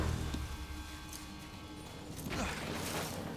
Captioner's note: winces